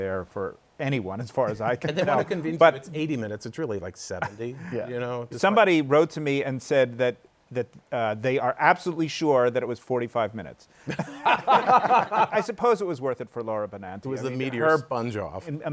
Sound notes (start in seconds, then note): 10.8 laughter